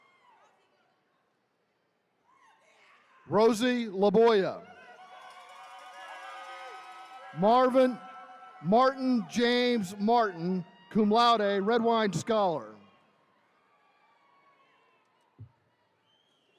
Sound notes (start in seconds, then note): 4.7 attendees cheering; 13.3 attendees cheering